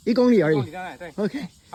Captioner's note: mandarin